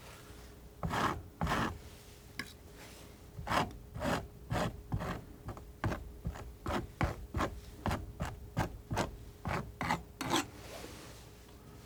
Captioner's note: scratching